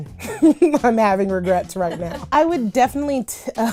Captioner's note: laughs